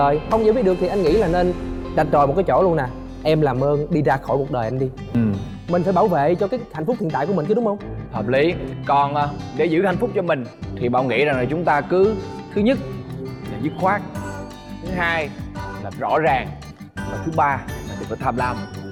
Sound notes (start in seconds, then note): none